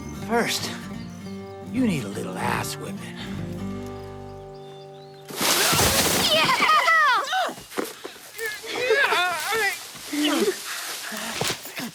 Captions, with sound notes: First, you need a little ass whippin'. (leaves rustling, thuds) - Yeah!